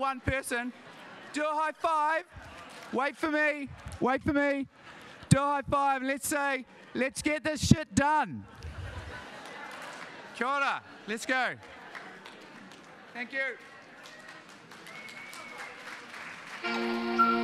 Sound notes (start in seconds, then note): 8.4 audience laughing; 10.9 speaks in a foreign language; 14.6 audience applauding